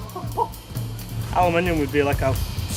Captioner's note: laughs